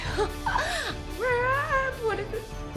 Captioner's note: exclaiming